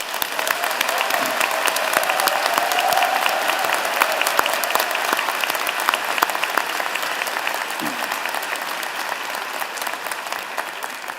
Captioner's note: cheers and Applause